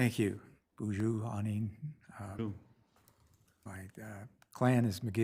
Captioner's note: speaks foreign language